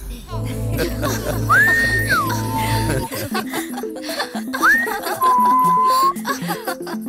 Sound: whistles

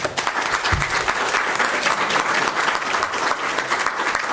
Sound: applause

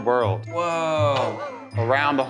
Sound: laughing

